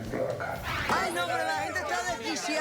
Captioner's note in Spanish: gritos y exclamaciones